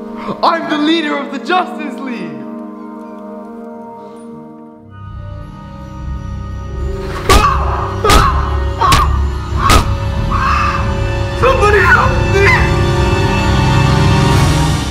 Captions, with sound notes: I'm the leader of The Justice League! (suspenseful music) (punching and screaming) - Somebody help me!